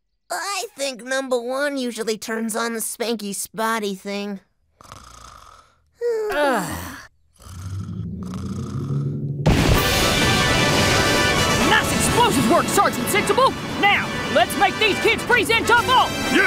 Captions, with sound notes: I THINK NUMBUH 1 USUALLY TURNS ON THE SPANKY-SPOTTY THING. [ SNORING ] UGH! NICE EXPLOSIVES WORK, SERGEANT SENSIBLE! NOW, LETS MAKE THESE KIDS PRESENTABLE.